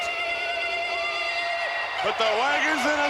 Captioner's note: native tribal screeching